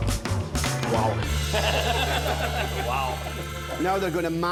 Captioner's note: laughing